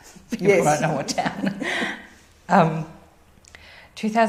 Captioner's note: laugh